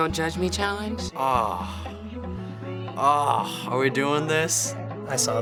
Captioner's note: groans